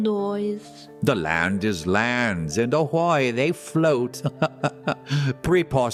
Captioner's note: laughs